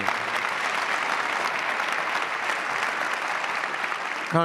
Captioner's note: audience clapping